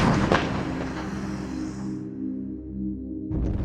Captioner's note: sound of gunfire